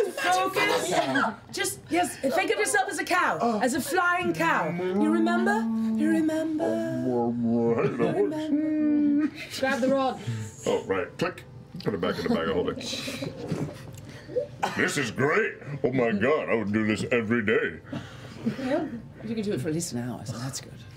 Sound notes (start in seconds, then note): 12.2 click